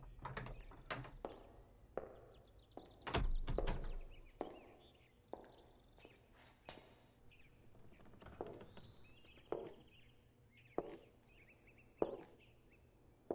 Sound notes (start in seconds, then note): 0.0 door opens, footsteps, door closes; 4.8 footsteps cont